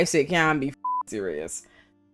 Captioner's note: beep